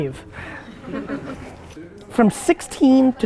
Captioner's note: group laughter